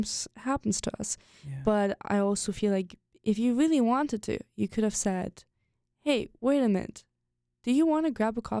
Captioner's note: none